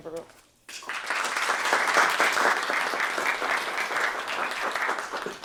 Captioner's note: applause